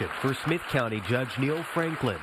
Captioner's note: clapping